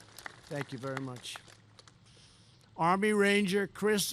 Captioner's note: applause